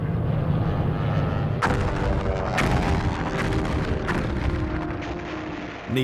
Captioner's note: bombs exploding